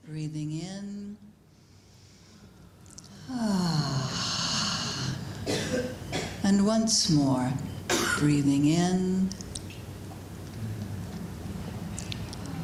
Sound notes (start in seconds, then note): 3.0 sound of exhalation; 3.0 sound of inhalation; 9.9 sound of inhalation